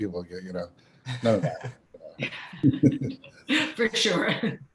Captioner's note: laughs